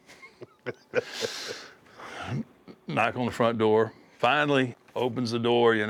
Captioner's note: laugh